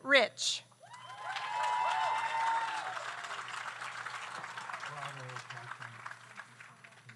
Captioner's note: audience cheers; audience applauds